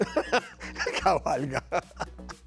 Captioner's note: laugh